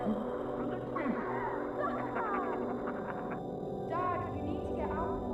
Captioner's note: laughter